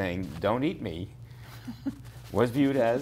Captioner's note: chuckles